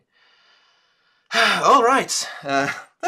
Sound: sigh

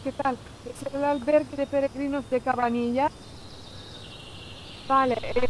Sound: birds chirping

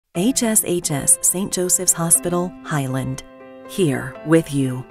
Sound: voiceover

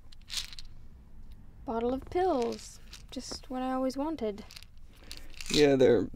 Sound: sarcastically

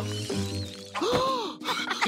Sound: gasps

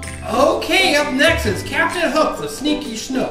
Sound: voiceover

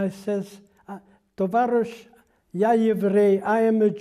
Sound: speaking Russian

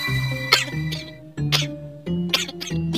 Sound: cockroach coughs

